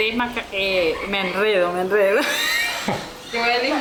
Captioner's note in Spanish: risas